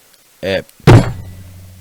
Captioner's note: door slamming